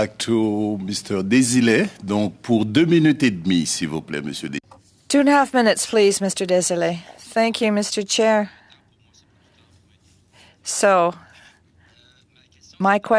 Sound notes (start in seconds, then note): 8.7 speaking French